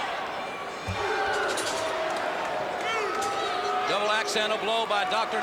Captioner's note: crowd chatter